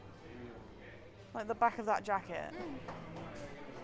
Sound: mumbles in agreement

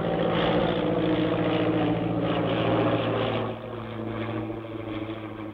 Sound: engine rumbling

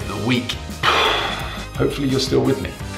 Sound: imitates bomb exploding

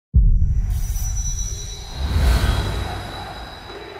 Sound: logo whoosing

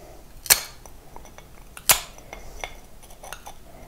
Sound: snapping

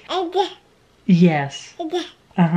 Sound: baby mutters

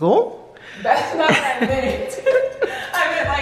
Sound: laughs

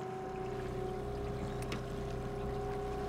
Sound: trolling motor humming

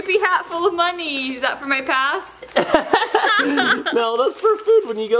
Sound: laughs

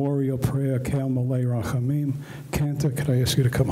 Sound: speaks in foreign language

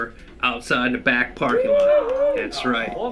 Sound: cheers and jeers

